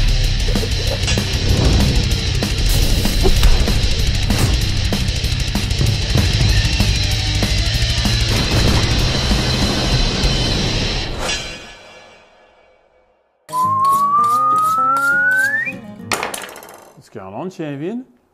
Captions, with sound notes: [Whistles] What's goin' on, champion?